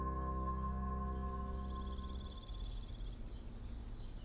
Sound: birds chirping

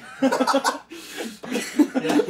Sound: laughing

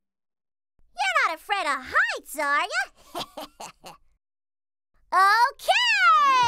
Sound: chuckles

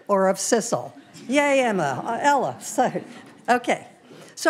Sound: audience laughing

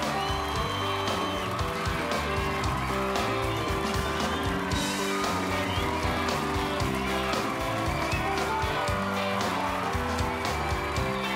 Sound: cheers and applause

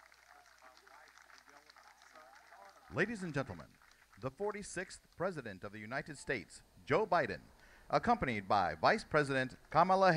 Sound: cheers and applause

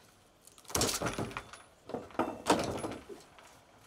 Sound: plank clunks

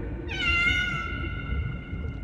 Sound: meowing

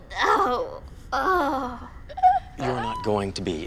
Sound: Adena over dramatically sobs and gasps

